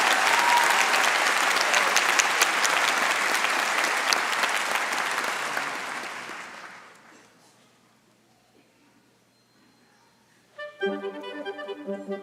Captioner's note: applause